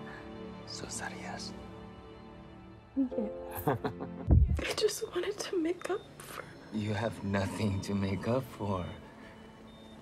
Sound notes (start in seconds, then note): 2.5 laughs